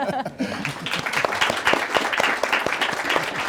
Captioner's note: laughs; crowd claps